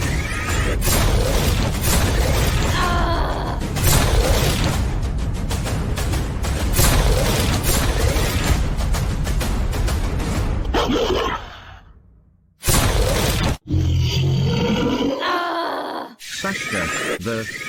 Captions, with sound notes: [Gun Fire] Saska, The Dealer of Death !